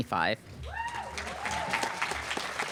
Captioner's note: applause